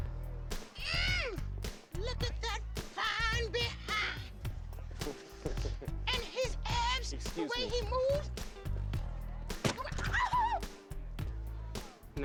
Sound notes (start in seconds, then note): 9.6 shrieks